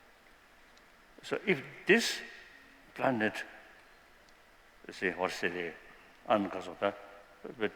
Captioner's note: non-english